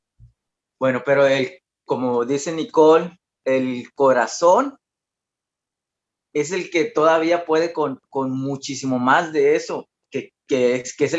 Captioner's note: continues answering in Spanish